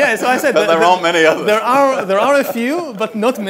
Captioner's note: laughs